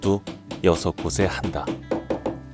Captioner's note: hammering sound